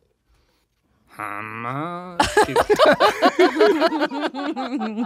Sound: groans; they laugh

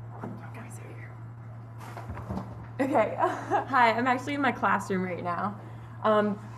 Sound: laughter

